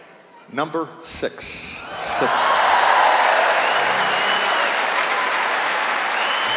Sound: cheers and applause

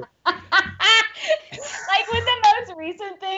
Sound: laughing

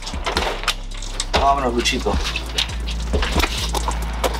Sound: speaks Spanish; lively music

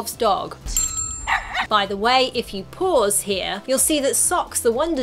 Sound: barking

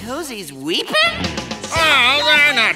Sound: grunting

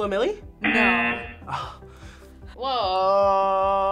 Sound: buzzer sounds

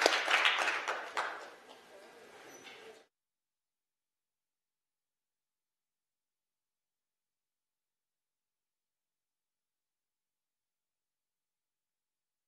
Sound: applause

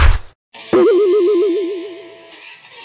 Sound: cartoon BOING sound

